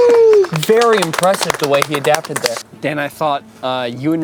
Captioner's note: crew applauds